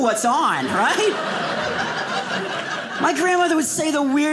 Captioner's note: audience laughing